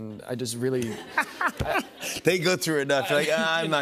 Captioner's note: laughter